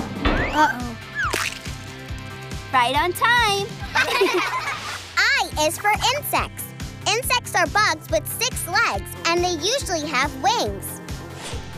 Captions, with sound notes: Uh-oh... Right on time! [laughing] I is for insects. Insects are bugs with six legs and they usually have wings.